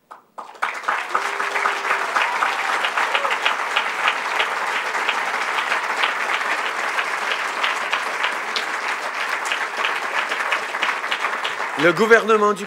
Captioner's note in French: Applaudissements